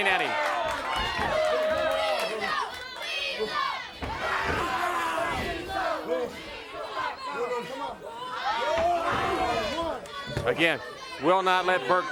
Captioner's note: crowd chatter